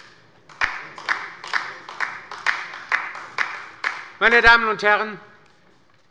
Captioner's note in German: Beifall bei der LINKEN